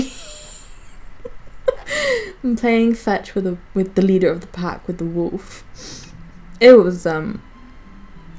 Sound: wheezes

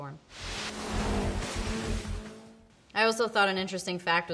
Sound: water splashes down

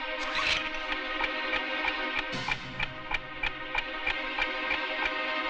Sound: clock Ticking

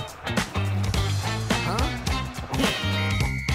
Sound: growling

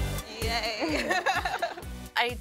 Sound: laughter

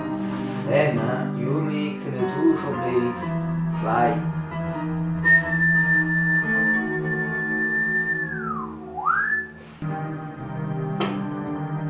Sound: whistle

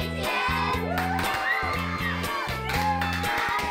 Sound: cheering

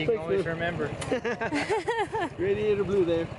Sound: laughing

